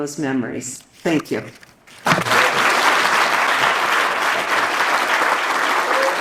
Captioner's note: audience applauds